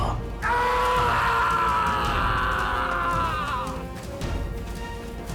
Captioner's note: screams